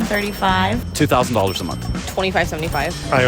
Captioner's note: cash register dinging